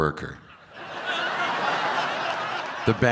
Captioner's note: crowd laughing